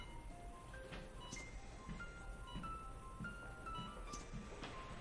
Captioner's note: hear rate monitor beeping